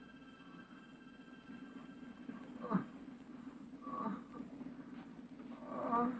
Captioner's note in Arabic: أصوات تأوه